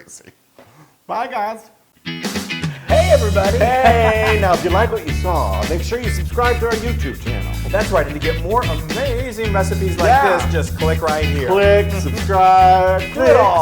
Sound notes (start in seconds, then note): 2.7 laugh